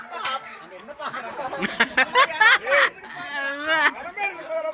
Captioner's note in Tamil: சிரிப்பு